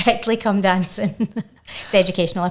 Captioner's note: chuckling